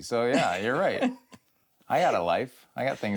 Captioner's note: chuckles